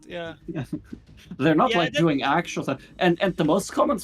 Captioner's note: laughs